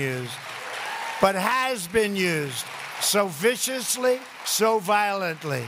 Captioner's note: applause